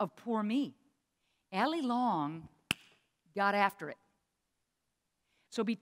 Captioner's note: claps